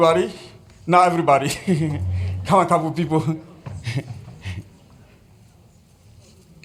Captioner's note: laughs